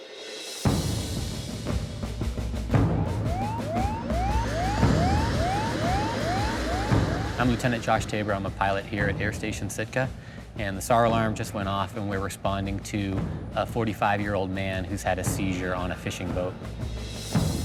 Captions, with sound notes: (tense music) (alarm sounding) - I'm Lt. Josh Tabor, I'm a pilot here at Air Station Sitka and the SAR Alarm just went off and we're responding to a 45 year old man who's had a seizure on a fishing boat.